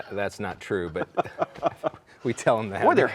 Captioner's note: laughing